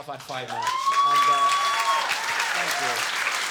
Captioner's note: audience clapping and cheering